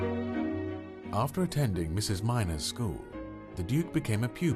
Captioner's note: voiceover